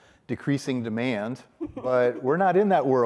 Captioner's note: chuckles